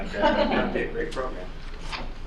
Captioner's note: laughing